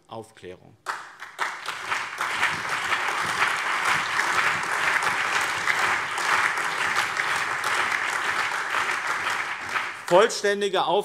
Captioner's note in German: Allgemeiner Beifall